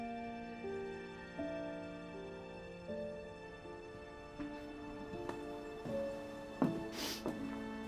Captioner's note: Bree sniffles